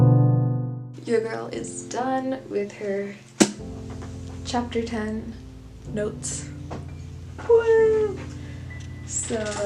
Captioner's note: slaps book